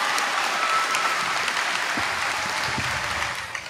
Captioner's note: applause